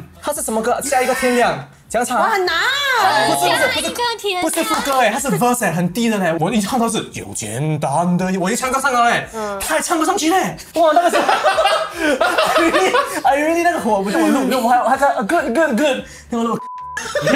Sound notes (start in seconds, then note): 11.0 laughs